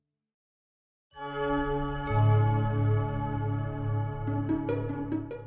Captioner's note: bells chiming; bright tonal music